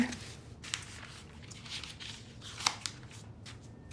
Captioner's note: paper swishing